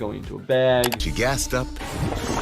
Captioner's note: computer mouse click